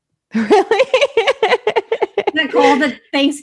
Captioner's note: laughs